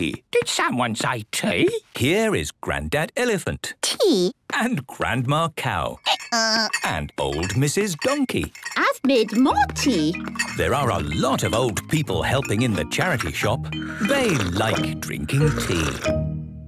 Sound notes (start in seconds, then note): 6.0 braying